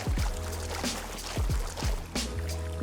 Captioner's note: footsteps